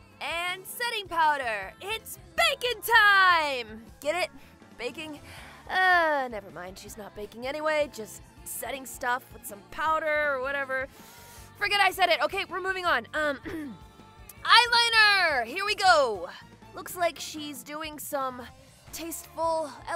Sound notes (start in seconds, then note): 13.2 clears her throat